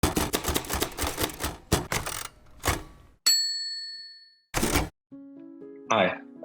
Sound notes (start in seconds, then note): 0.1 keys clicking; 3.2 bell dinging; 4.6 carriage clicking